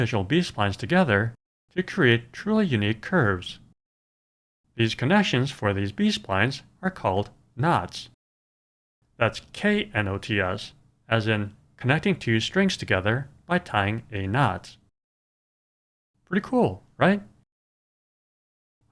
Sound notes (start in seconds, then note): none